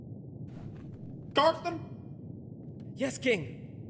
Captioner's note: none